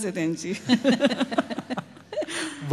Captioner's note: laughter